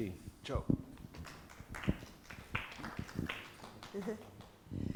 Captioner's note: audience clapping